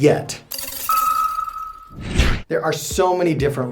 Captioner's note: electronic noises